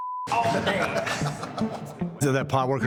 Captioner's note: laughing